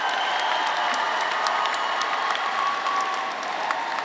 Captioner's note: audience cheering